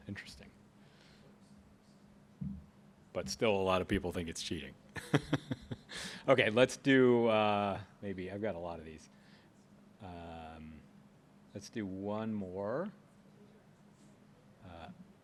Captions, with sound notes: Interesting. But still, a lot of people think it's cheating. [LAUGHS] I've got a lot of these. Let's do one more.